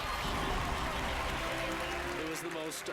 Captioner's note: audience applauding